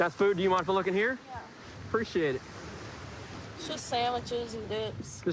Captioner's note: none